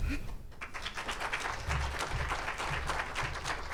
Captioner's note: audience applauds